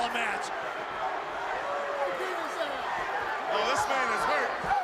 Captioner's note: crowd chatter